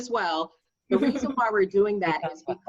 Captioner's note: laughing